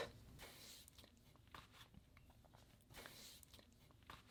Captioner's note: rustling